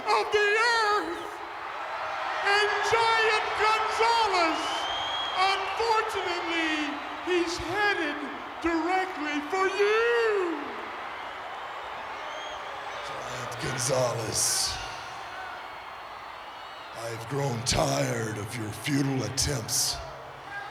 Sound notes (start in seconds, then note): 10.7 applause